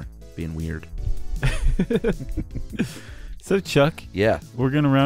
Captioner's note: laughs